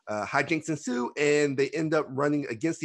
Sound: none

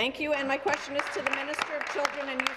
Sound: applause

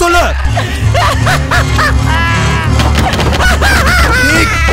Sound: Pradhik laughs madly

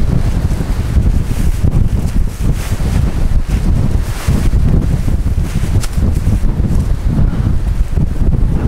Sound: wind

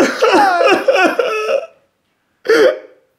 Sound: cries

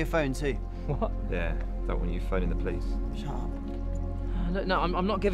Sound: whispered

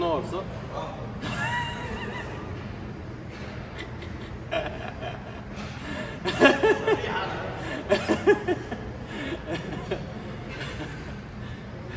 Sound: laughter

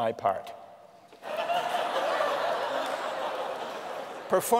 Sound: laughter

